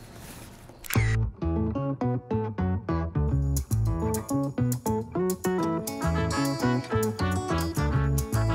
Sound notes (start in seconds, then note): 0.8 camera shutters; 0.8 upbeat music